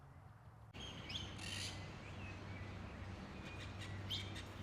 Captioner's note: birds chirp